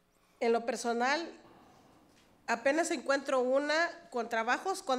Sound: speaks foreign language

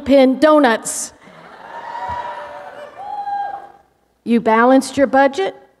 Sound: laughter, cheers from audience

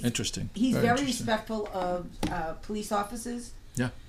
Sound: voiceover

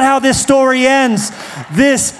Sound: applause

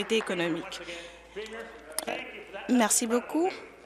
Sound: applause

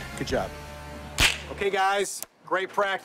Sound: loud smack

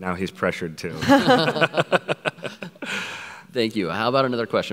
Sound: everyone laughs

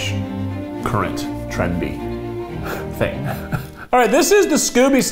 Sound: laughs

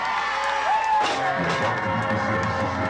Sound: loud crash

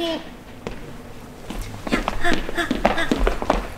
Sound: flap

